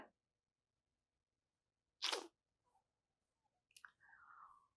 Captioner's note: pauses 11 seconds